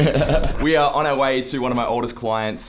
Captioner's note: laughter